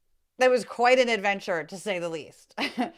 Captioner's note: laugh